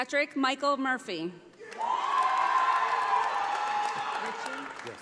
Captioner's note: audience applauding